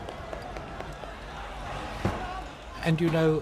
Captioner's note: crowd shouting